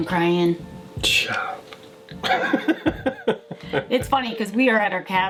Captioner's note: laughs